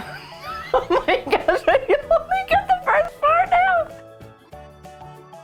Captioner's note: laughing